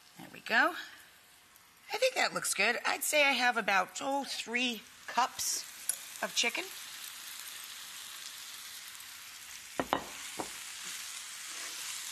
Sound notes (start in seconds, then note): 7.6 skillet sizzling